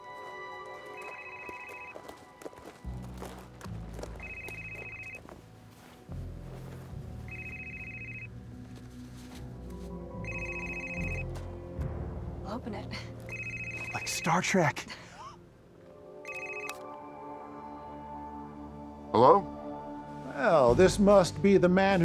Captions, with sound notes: (suspenseful music) (suspenseful music continues) - Open it. - Like Star Trek. (laughs) (gentle music) - Hello? - Well this must be the man